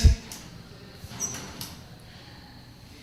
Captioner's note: birdsong